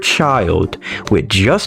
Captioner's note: inhales Oxygen